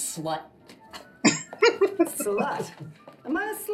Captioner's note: laughing